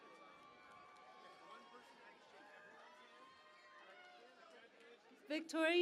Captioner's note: cheering and Applause